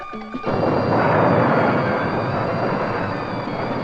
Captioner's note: crashing